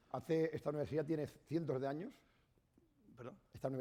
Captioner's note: speaking spanish